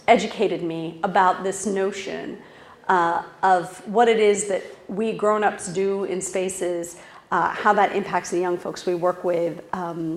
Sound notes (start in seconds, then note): none